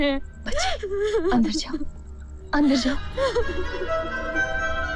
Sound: crying

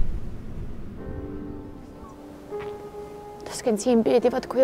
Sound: seagulls cry. sea waves from afar. haunting piano music

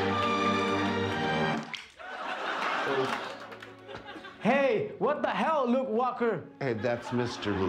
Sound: laughter

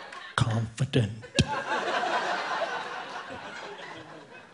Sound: audience laughing

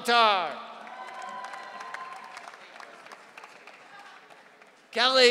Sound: audience cheering

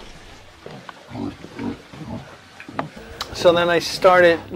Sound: pigs honking

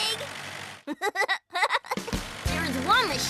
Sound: laughs

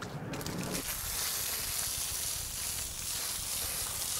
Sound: splashes sharply

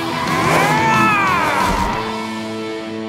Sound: roaring

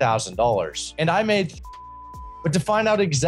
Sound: beep

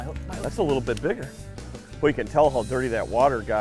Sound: voiceover

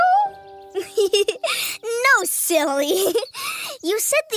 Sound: giggles

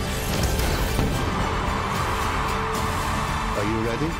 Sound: audience cheering

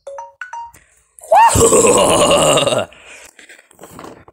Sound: laughing

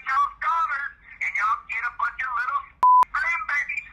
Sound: beep

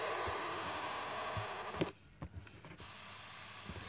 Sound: spoopy static

